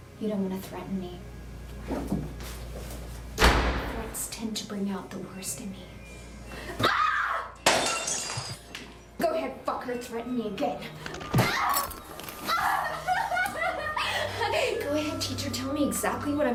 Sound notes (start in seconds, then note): 7.6 glass shatters; 12.4 cries; 13.2 ominous music